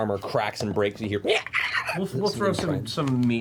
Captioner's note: dying noises